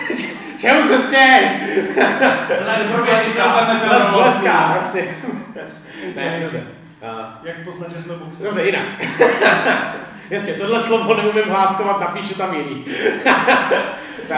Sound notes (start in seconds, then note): 1.3 laughing from behind the camera